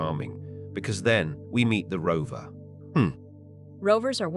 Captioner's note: chuckle